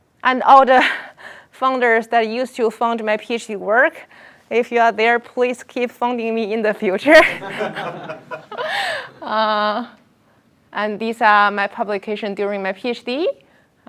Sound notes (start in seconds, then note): 7.1 laughter